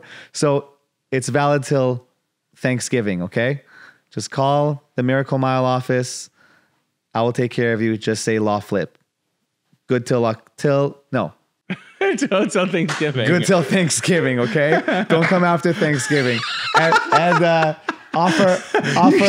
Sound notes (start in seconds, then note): 12.4 laughs